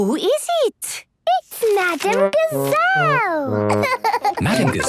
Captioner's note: laughing